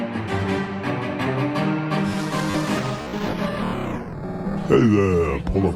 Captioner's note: transition music; ambient bar sounds